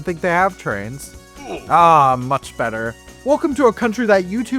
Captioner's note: Minecraft oof sound